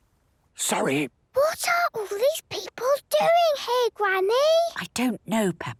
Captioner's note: whispering; quietly